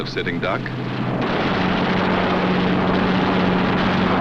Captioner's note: guns firing